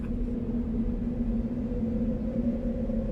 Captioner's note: eerie wind